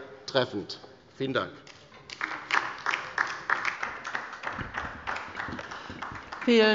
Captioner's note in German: Beifall bei der LINKEN